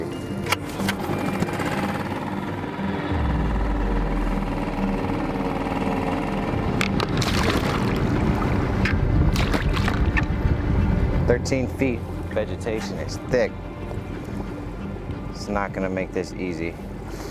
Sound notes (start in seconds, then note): 0.1 motor droning; 0.3 gentle music continues; 7.5 gentle music continues; 7.5 water splashing